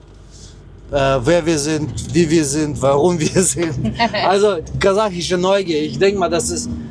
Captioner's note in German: gelächter